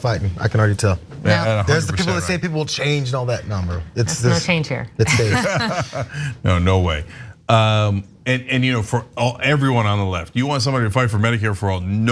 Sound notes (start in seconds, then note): 5.0 laugh